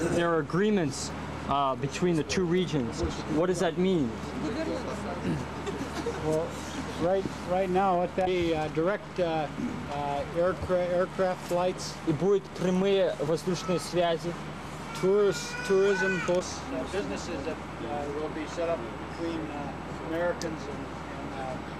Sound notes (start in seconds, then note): 4.1 chatter in russian; 12.8 russian speech